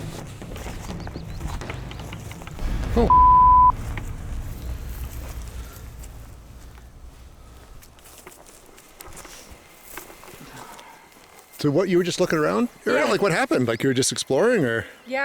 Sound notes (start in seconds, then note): 0.1 intense music; 3.0 beep; 8.8 eerie music